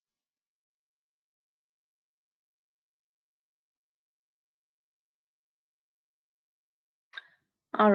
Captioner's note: 8 seconds pause